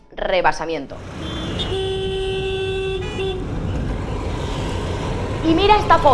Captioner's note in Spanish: sonido de atasco